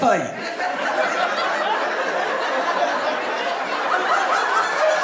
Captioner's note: audience laughing